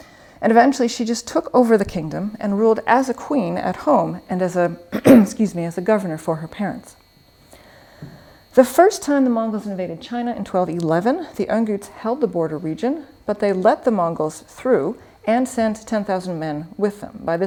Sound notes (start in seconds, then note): 4.9 clears throat